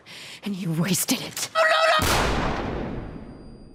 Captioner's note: gunshot